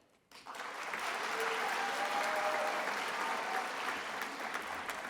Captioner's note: attendees applauding